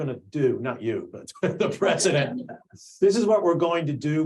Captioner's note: laughs